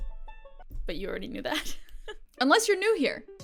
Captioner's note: chuckles